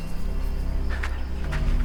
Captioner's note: shoes clanking